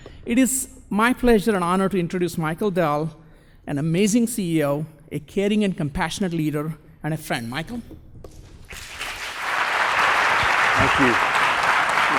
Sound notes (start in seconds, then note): 8.7 applause